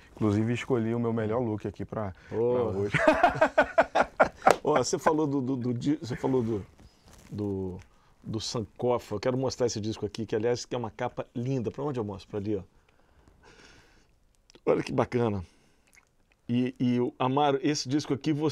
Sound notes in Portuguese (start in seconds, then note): 2.7 Risadas